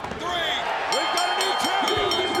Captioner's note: bell rings